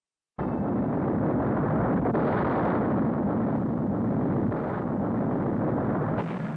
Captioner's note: explosions